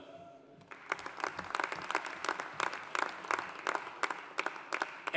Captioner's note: audience applauding